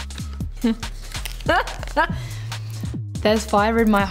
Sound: laughing

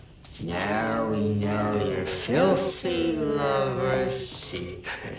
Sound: laughs

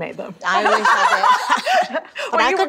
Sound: all laughing

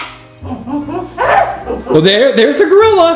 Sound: gorilla growling

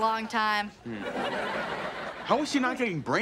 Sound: audience laughing

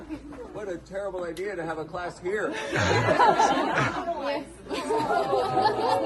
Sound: laughter

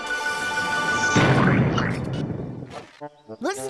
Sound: explosion

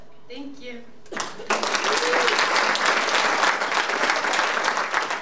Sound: audience applauding

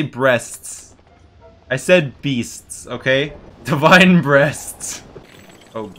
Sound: laughs

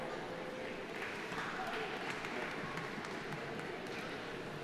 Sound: audience applauding

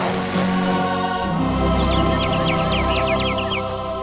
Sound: chirping

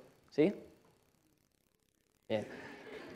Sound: silence; laughter

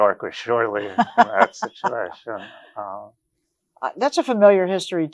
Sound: laughs

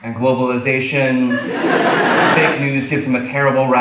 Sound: audience laughs

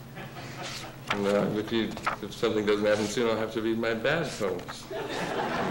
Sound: laughter

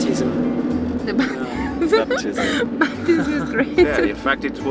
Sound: laughs

